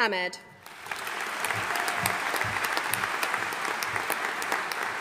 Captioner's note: audience applauding